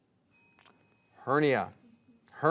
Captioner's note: bell chimes